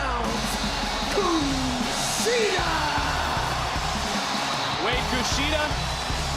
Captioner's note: audience cheering